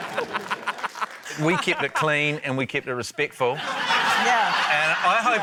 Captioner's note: laughter